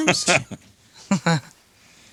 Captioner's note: laughing